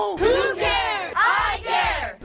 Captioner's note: shouting